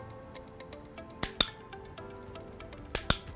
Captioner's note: clicker; clicker